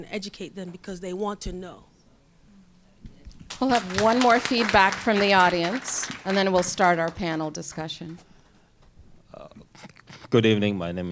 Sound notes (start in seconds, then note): 3.4 applause